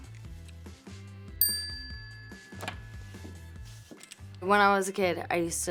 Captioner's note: bell dings